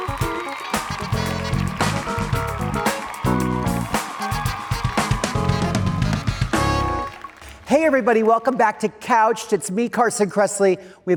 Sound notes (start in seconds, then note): 0.0 audience cheering